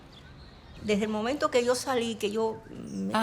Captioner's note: speaking in Spanish